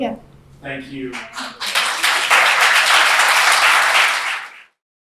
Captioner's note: applause